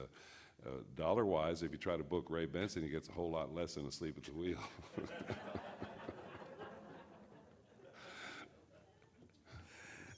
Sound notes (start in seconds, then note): 4.9 audience laughs